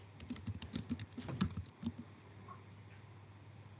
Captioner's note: fingers typing